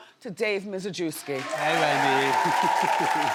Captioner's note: audience clapping; chuckling